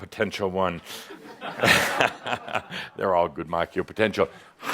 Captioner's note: Adamus chuckles